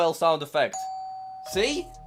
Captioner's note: doorbell rings